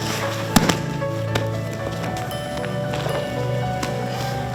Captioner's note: thudding